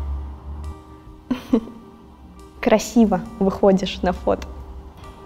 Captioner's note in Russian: усмешка